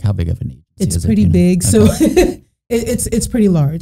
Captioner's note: laughing